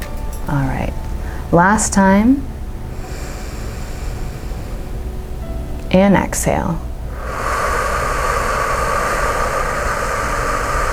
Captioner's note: exhales for six; inhales for three